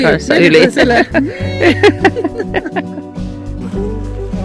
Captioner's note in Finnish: naurua